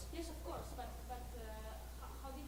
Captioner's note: voiceover